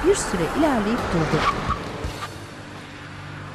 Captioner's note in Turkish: Araba sesi; Fren sesi